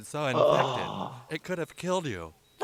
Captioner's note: groans